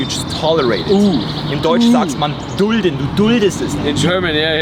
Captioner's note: speaking German